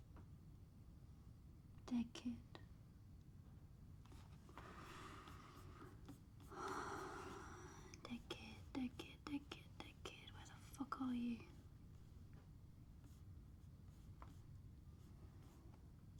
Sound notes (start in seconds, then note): 6.5 sighs